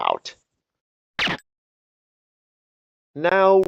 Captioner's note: silenced gunshot